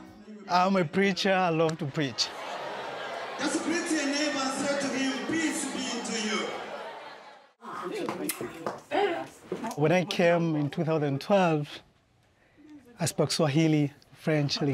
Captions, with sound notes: - I'm a preacher, I love to preach. As you greet your neighbor say to him, "Peace be to you." (smooching) When I came in 2012, I spoke Swahili, French Lingala,